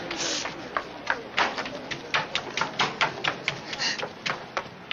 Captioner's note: footsteps receding; Sylvia sniffling